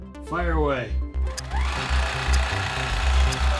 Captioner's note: machine whirring